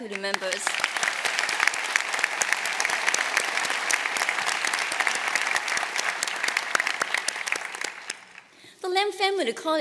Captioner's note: applause